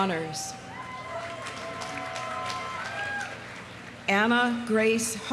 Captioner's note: audience cheering; audience applauding